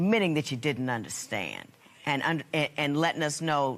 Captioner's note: none